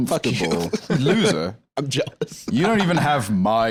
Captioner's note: laughing